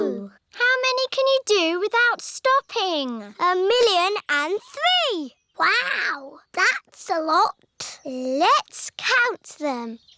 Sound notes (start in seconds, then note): none